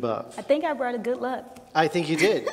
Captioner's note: laughs